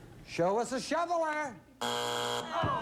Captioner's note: buzzer